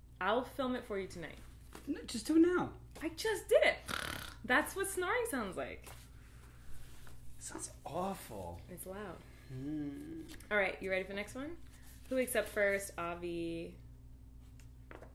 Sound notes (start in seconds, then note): 3.8 snores; 9.4 groans